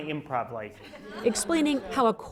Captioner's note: laughter